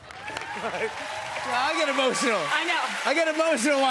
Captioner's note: cheers and applause